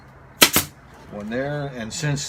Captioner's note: nail gun operating